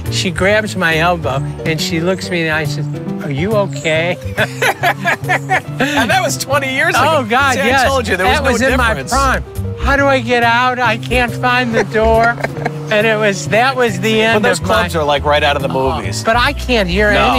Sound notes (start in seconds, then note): 4.2 men laughing; 11.7 laughing